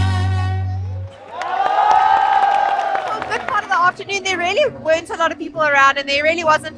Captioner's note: applause